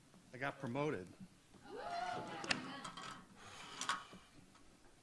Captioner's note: audience cheers